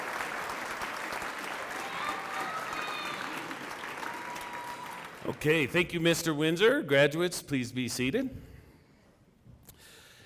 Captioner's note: cheering and applause